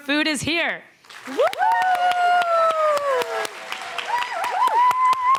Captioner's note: cheering, applause